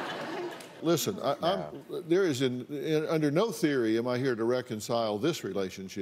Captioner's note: laughter